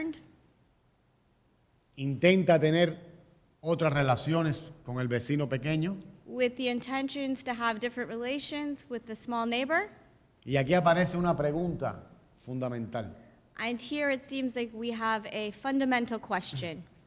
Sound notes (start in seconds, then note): 0.1 speaking in Spanish; 10.4 speaking in Spanish